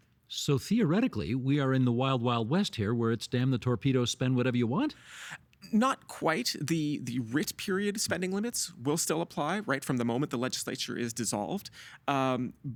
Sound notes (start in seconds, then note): none